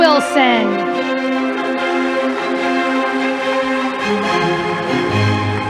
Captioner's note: audience applauding